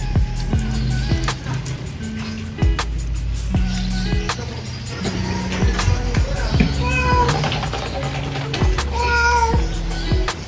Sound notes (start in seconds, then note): 6.6 Mapa Meowing; 8.8 Mapa Meowing